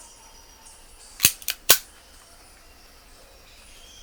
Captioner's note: gun clicks